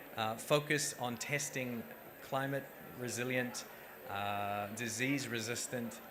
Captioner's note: none